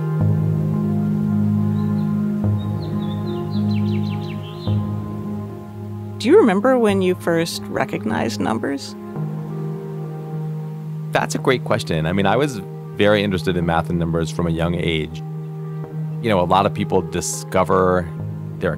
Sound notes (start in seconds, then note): 0.5 birds chirping; 0.5 soft music